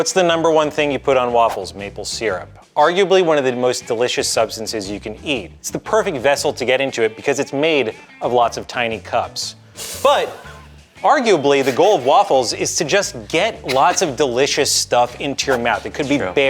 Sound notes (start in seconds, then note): 10.7 laughing